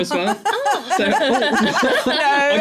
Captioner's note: laughter